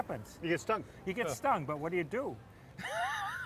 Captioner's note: laughs